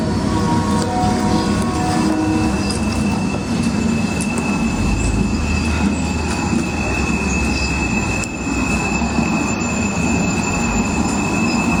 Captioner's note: background: train wheels to slow screeching halt